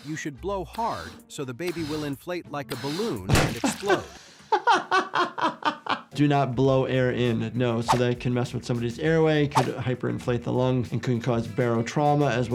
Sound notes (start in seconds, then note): 4.4 laughing